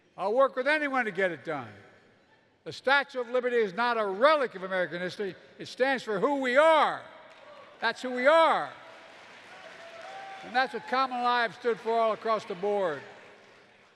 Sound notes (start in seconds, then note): 7.2 applause